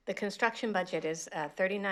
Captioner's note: none